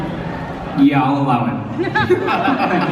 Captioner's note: haha